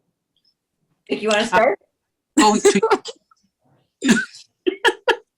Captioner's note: laughter